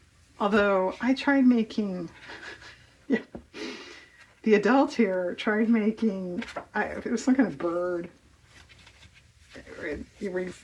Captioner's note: laughs